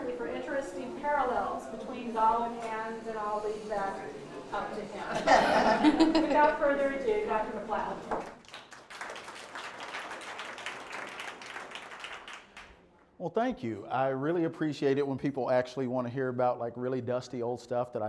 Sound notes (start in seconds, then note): 12.5 applause